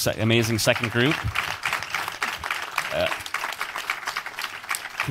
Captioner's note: audience applauds